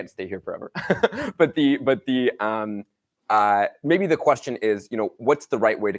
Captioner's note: laughs